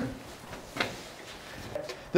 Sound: laughing

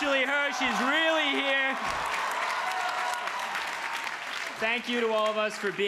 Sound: crowd cheers

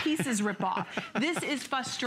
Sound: laughter

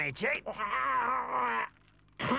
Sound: Weasel Chief groans

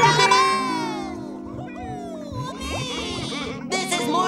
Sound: cheering

